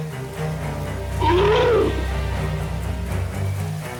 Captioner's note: elephant roaring; dramatic music